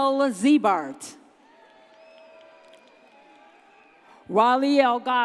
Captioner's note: audience cheers